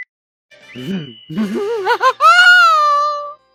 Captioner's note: maniacal laughter